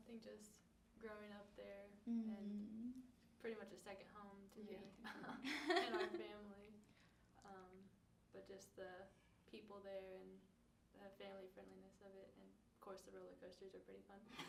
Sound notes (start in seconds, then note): 5.3 laughing